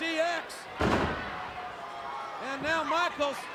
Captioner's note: body thuds